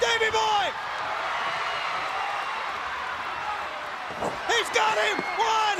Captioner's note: crowd cheering